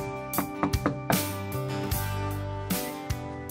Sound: knock on door

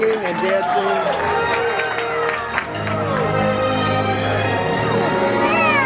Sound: patrons applaud; instrumental music

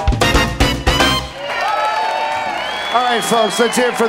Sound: applause

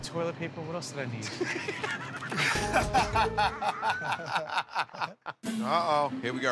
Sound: laughter

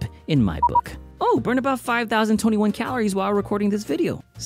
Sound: beep beep

